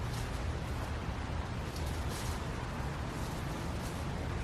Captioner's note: footsteps crunching